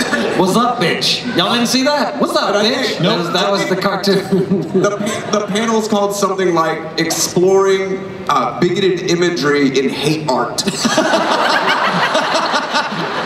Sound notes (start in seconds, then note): 4.1 laughs; 10.7 everyone laughs